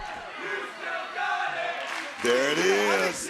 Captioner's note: crowd chanting "You've still got it!"